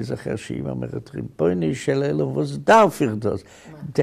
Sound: speaking in Yiddish

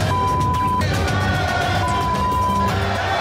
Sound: beep

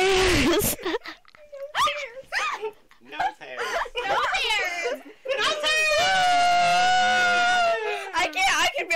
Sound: laughter

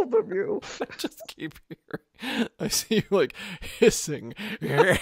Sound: speaking while laughing

